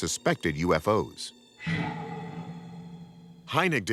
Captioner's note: ominous whooshing